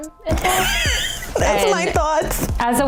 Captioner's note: laughing